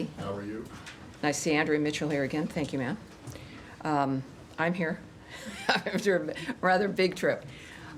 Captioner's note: laughter